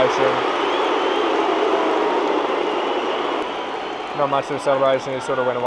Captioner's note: crowd cheering